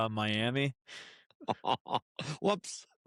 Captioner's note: laughter